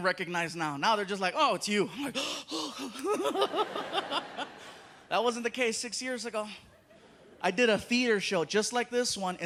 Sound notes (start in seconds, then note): 2.0 sighs; 2.6 laughs